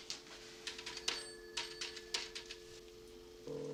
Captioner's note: dial tone